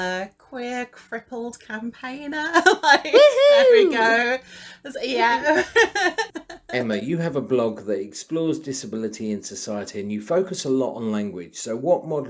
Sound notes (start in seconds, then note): 4.9 laughs